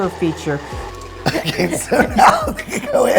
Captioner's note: laughing